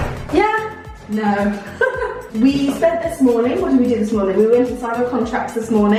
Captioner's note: laughs